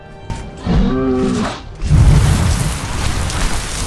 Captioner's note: minotaur battlecry